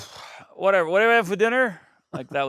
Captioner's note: exhales